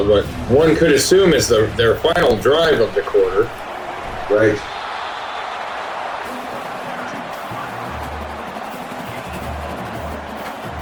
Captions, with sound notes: One could assume it's their final drive of the quarter. [Crowd Noises]